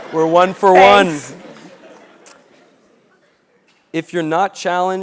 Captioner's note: laugh